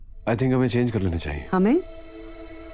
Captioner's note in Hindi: none